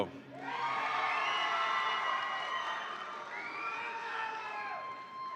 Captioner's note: audience applauds and cheers